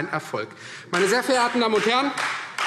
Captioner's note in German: Beifall Freie Demokraten